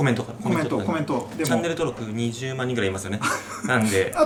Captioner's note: laughs